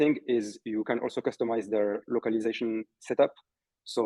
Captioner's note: none